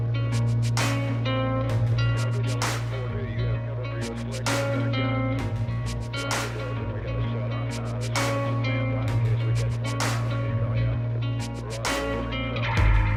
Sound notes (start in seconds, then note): 4.1 radio noises